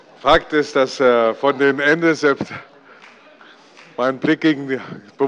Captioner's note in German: Heiterkeit bei der SPD